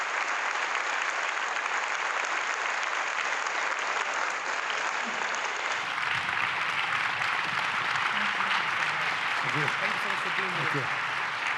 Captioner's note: applause